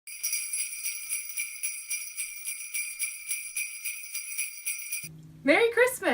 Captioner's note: bells jingling